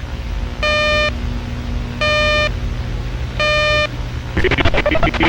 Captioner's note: 600 hz tones; glitches